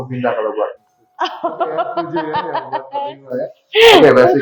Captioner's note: laughs